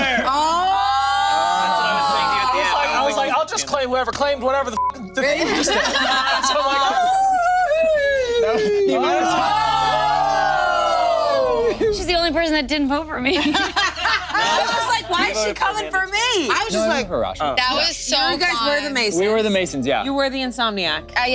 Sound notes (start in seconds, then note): 4.7 beep; 5.2 group laughing; 5.9 group cheering; 7.0 howls; 7.1 group laughing; 13.3 laughs